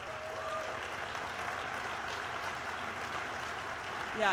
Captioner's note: applause